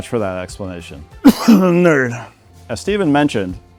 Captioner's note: cough